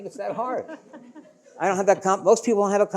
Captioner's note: audience laughing